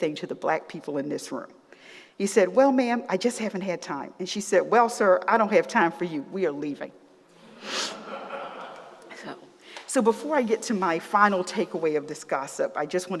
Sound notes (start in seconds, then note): 7.8 laughter